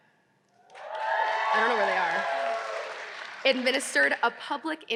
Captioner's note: audience cheering